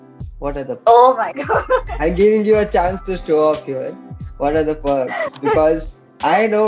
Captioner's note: laughs